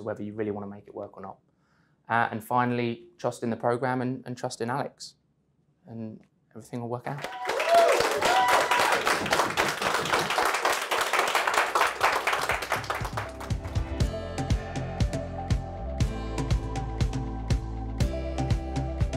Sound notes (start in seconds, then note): 7.2 audience cheering; 12.4 energetic music